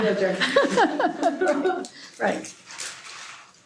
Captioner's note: laughter